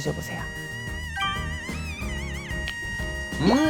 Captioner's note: slurp